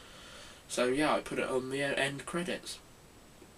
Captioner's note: none